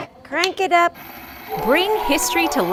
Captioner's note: crank clicks